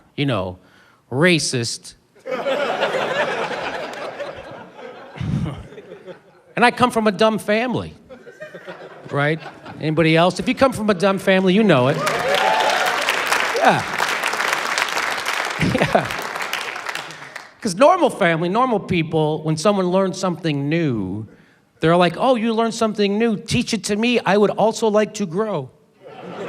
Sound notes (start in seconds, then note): 2.2 laughter; 11.8 cheering, applause; 15.5 laughs